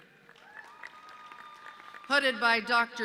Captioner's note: audience cheering